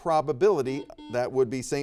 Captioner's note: buzzer beeps